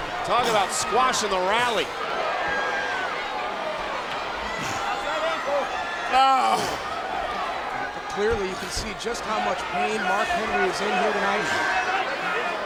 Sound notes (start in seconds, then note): 6.2 groans